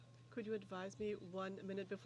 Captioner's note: speaking French